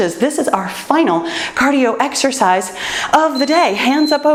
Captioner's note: timer beeps